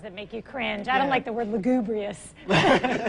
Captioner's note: laughs